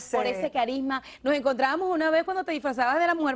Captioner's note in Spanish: hablan al unísono